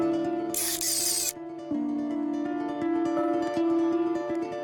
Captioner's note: camera flashing